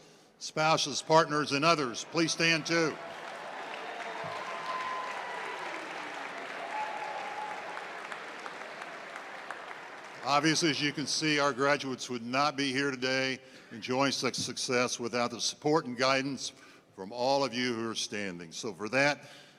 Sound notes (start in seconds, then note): 2.0 applause